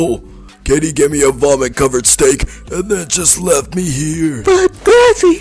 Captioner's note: narrating